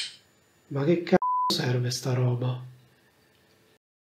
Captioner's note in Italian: beep